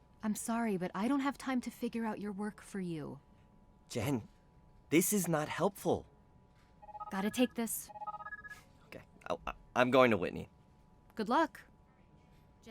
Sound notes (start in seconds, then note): 7.8 headset ringing